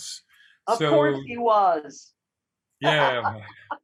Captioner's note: laughs